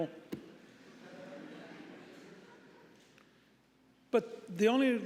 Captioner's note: audience murmuring